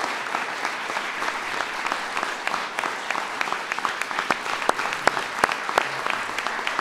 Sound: applause

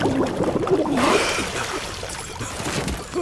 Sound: bubbling; gasp; deep breath, coughing

